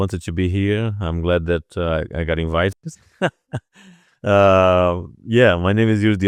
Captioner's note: laughs